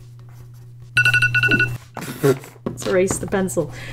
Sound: alarm sounds

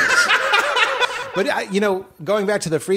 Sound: laughter

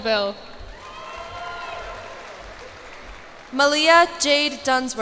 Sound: cheers and applause

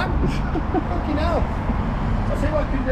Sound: chuckles

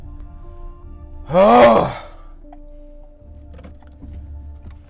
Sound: groaning

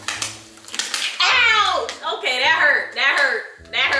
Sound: rapid popping

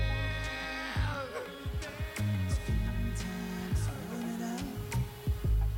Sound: echoing

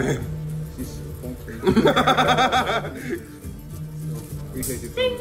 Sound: laugh

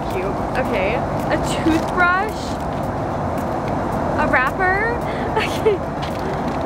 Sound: laughs

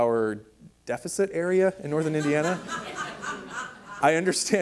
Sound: audience laughs

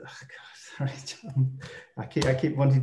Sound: whispering slowly

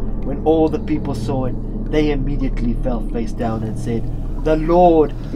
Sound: none

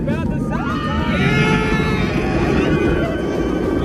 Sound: screaming

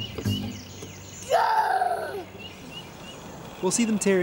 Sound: child making monster noises

